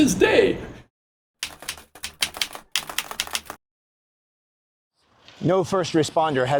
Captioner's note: keyboard keys clicking